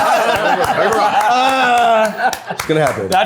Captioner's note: laughing; people laughing